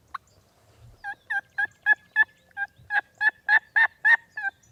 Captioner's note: turkey gobbling; turkey call